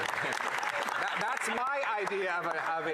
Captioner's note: applause